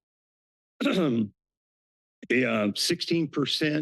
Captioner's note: clears throat